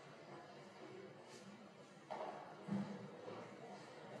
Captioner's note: none